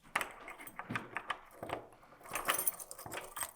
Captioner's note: key clanging